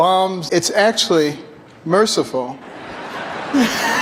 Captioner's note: laughs; creepy Carson laugh